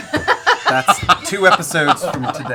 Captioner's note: laughter